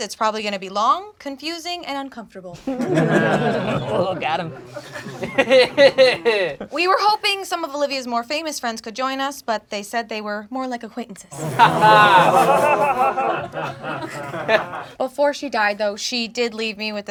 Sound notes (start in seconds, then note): 2.6 crowd laughing; 5.3 laughing; 11.3 crowd laughing